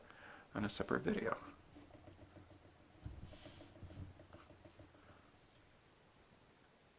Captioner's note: writing